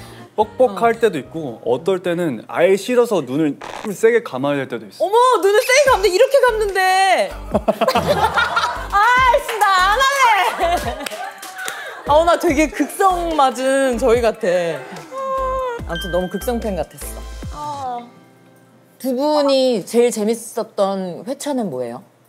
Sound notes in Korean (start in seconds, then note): 3.6 끙끙